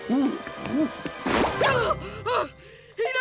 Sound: gasping

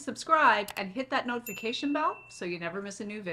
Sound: bell dinging

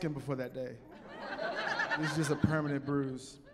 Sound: laughing

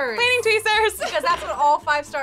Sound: laughs

